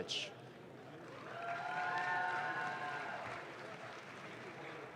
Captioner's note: audience claps